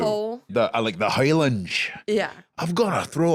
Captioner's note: scottishly